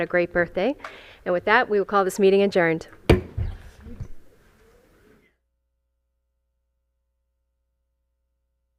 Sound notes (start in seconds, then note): 3.0 gavel hitting dais